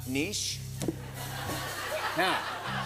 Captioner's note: laughter